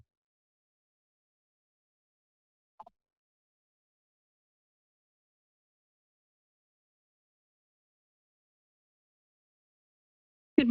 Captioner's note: silence